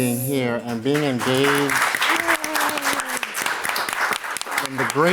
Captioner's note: applause